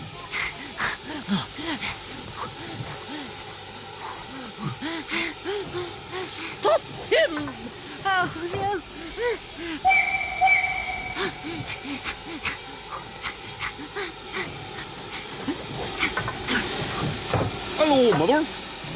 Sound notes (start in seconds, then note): 1.2 Toad pants; 9.8 train whistle blows